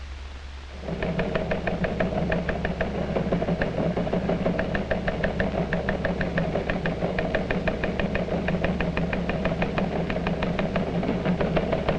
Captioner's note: rhythmic sound of teletype machine